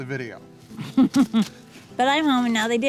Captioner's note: woman laughs